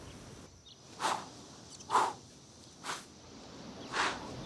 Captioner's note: man huffing